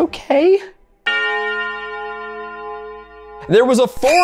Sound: bell tolls

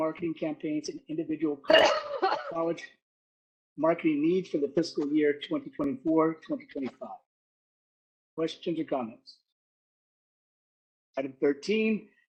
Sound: coughing

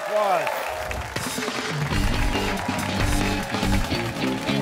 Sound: cheers and applause

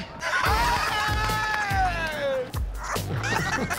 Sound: laughter

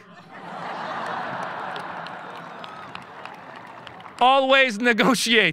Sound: audience laughing

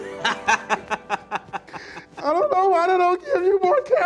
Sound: man laughing

